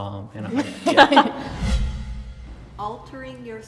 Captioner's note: everybody laughs